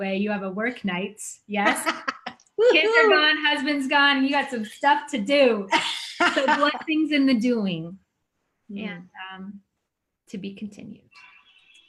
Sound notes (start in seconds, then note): 1.6 laughing; 5.7 laughing